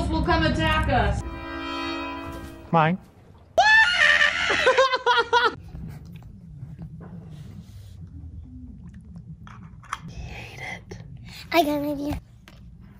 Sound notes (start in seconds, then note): 1.2 blaring trumpet; 2.9 seagull; 5.4 cackles loudly